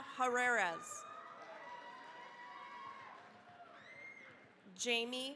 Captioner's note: cheering, applause